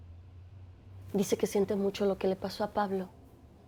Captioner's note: speaking spanish